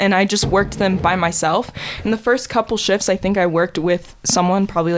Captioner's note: none